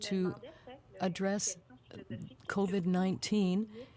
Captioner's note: speaking french